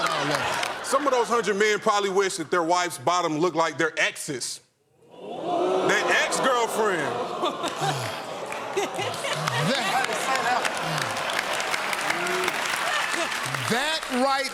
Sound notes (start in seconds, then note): 5.2 audience "oohs"; 7.7 sighs; 10.5 applause; 12.6 laughs